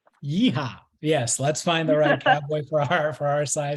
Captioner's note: laughs